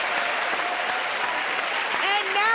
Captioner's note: cheering and applause